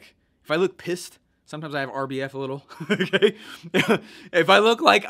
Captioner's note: laughing